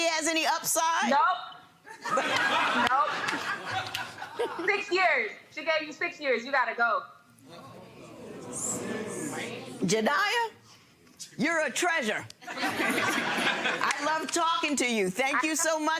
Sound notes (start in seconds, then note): 7.6 audience gasps; 12.5 audience laughing